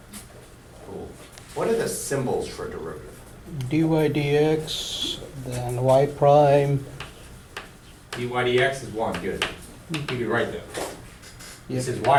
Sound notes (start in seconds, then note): 4.3 voiceover